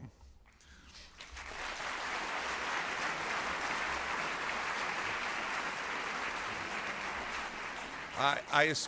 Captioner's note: applause